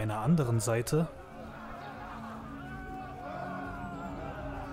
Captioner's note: knight noises